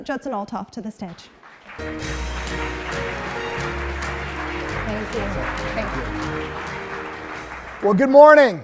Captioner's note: applause